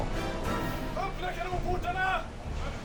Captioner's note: speaking Swedish